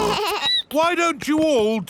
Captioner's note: snorts; bleats